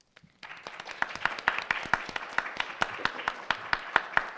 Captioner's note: audience clapping